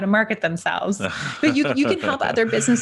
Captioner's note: laughing